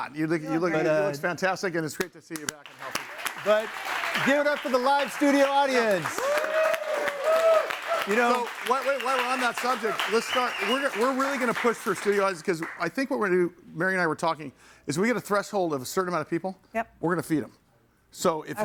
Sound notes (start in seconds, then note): 2.8 audience applauds; 6.1 audience cheers